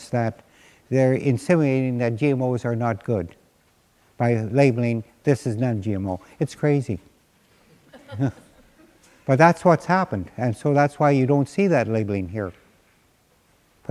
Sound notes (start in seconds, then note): 7.8 laughter